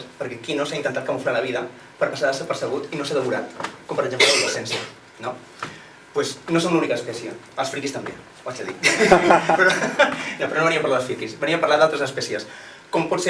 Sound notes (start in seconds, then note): 8.8 laughs